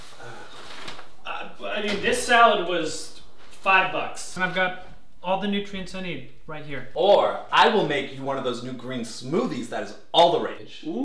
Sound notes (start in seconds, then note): none